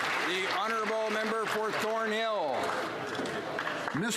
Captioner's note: some Applause